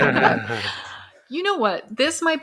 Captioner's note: laughs